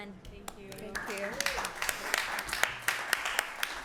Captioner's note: applause